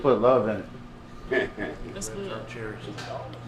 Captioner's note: man chuckles